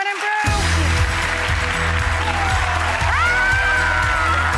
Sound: cheers and applause

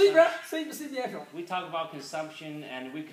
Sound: speaking foreign language

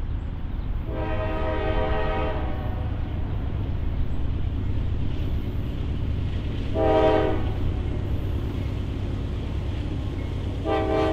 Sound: train horn

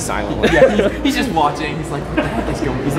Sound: cameraman laughing

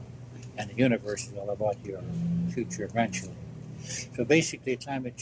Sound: background engine noises

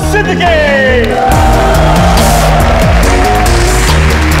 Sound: all cheering, clapping

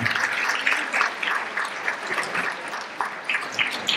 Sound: applause

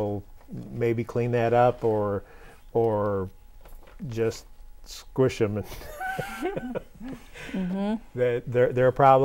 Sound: laughing

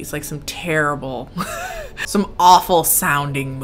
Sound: giggles

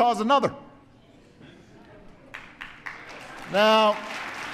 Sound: applause

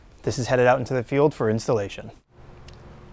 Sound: none

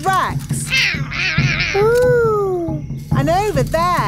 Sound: roaring

